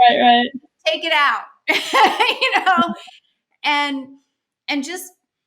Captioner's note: laughs